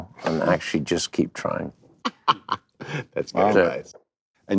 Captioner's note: laughs